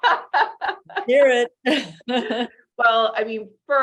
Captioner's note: laughs